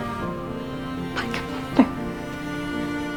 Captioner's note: whispering